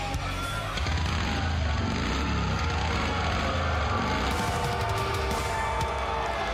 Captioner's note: motorcycle revs